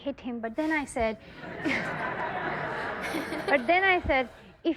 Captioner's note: audience laughs